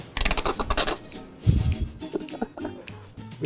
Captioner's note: bottle squirting; laughing